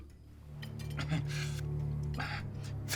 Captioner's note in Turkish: Mahmud boğaz temizleme sesi